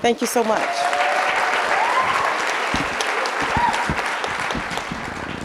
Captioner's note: audience applauding